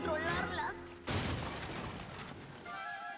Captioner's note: crash